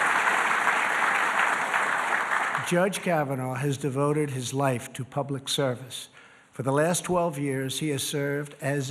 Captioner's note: applause